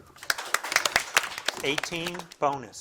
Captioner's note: audience applauding